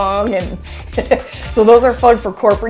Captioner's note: chuckles